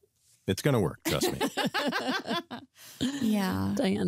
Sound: laughter

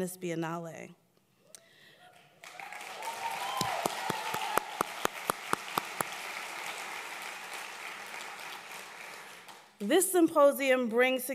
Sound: applause

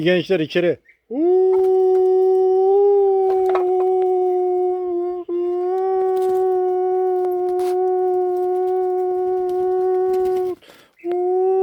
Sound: the sound of alarm I made with my mouth

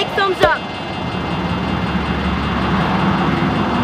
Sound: alarm ringing

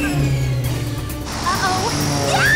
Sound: prisoners cheer

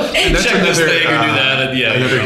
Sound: laughter

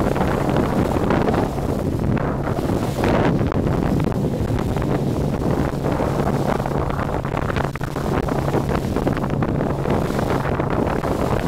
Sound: the wind and waves in the background

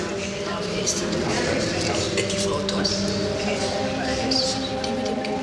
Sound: speaks foreign language

